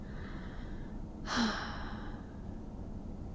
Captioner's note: sighs